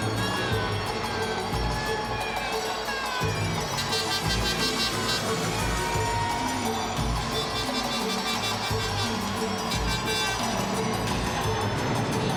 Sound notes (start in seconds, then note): 0.3 entrance music continues; 4.5 air horn blows repeatedly